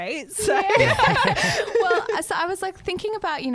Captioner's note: laughing together